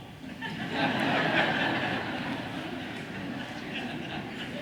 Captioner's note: audience laughs